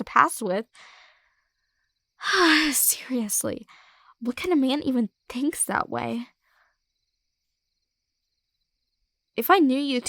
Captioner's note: sigh